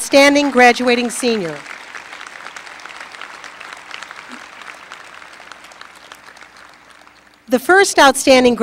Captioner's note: applause